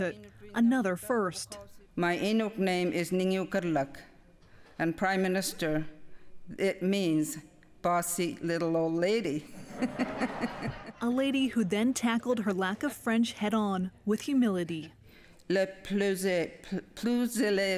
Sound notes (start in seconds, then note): 0.0 speaking inuktitut; 9.5 laughter